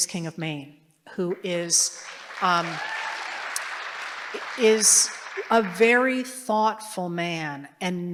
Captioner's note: applause